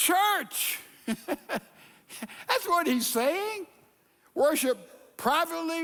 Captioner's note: chuckling